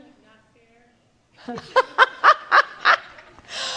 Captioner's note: laughter